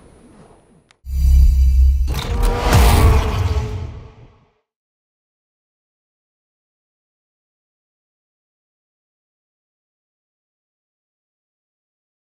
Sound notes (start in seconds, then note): 1.1 woosh; 2.0 vroom